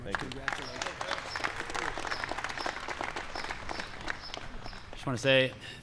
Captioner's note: applause